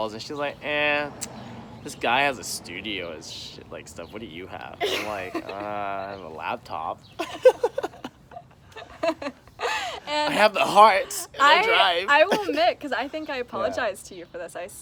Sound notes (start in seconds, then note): 4.8 laughs; 7.1 both laugh